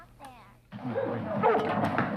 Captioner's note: yelling